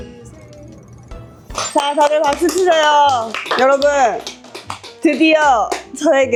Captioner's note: today's video starts with a round of exciting applause